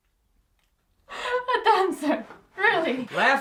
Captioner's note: laughs